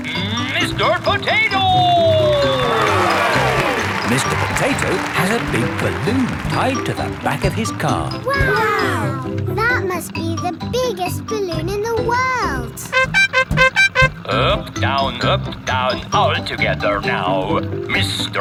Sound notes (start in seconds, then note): 3.2 cheering; 12.9 horn beeping